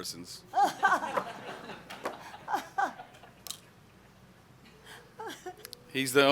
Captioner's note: laughter